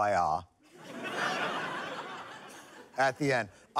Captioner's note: laughter